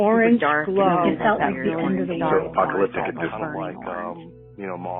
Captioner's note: people chattering